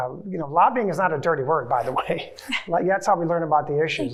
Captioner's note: chuckles